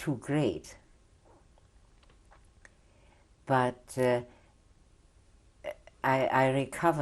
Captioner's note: pauses for 3 seconds